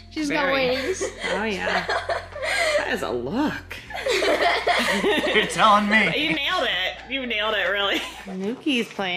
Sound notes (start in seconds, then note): 3.8 laughing